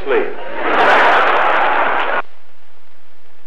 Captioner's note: laughter